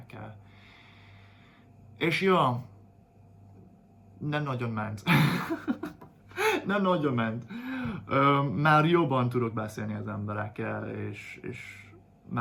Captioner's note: laughs